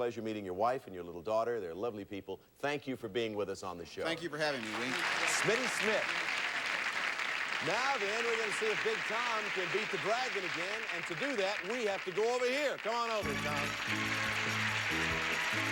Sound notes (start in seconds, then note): 5.8 audience applauding; 15.5 audience applauding